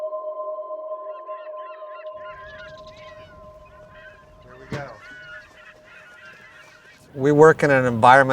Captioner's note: seagulls